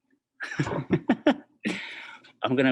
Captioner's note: laughs